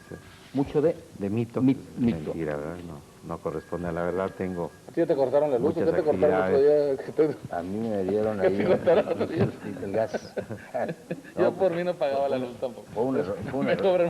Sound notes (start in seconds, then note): 8.1 laughs